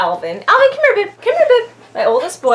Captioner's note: in dog voice